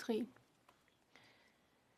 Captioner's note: speaking French